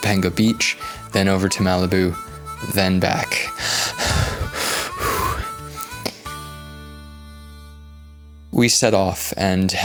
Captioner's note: exhausted breathing